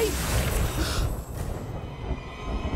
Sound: gasping

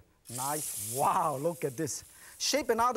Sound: sizzling

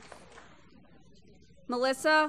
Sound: applause

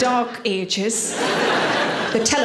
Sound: audience laughing

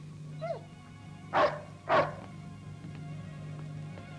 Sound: barking

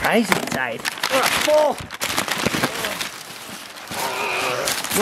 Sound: paper rustling

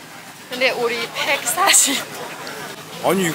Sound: laughing

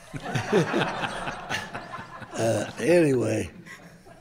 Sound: group laughing

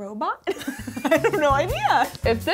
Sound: laughing

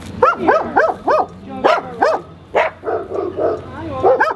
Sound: dogs barking

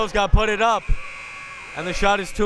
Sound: buzzer

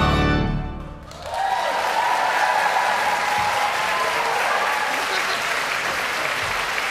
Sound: congregation applauds and cheers

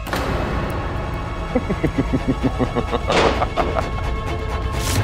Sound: laughs

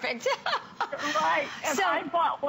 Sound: laughter

